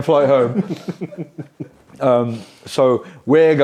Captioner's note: people laughing